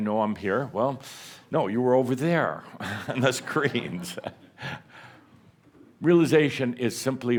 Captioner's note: Adamus chuckles